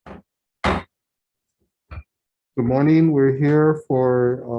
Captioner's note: gavel bangs